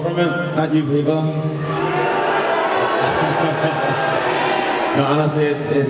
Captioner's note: crowd boos